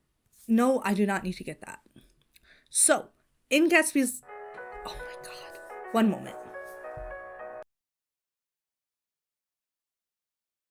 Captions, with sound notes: No, I do not need to get that. So in Gatsby's— (ringtone plays) Oh, my god. One moment. (audio mutes)